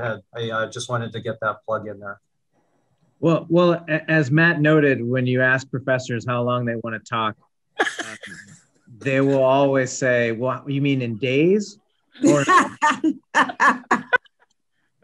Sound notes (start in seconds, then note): 7.8 laughter; 12.2 laughter